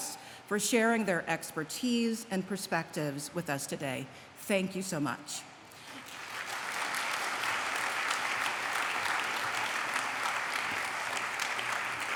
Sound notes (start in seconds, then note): 5.7 applause